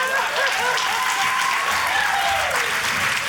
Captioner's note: cheering, applause